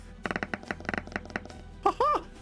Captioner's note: tapping